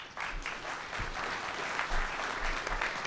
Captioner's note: clapping